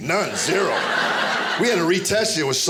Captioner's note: audience laughing